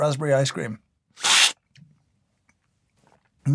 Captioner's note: slurp